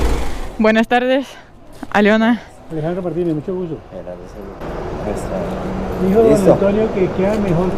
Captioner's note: in Spanish